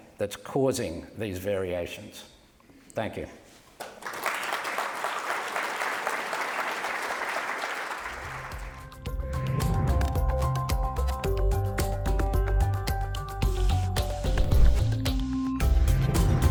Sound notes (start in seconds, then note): 3.8 audience applauds; 10.5 upbeat music